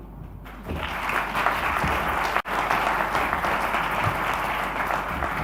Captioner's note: audience applauding